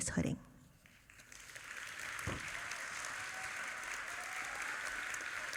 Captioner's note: audience applauding